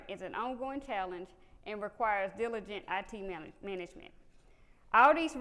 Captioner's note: none